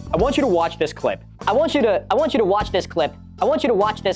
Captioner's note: voice speeding up